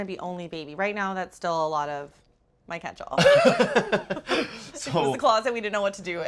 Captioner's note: both laugh